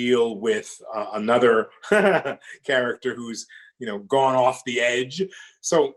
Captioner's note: laughs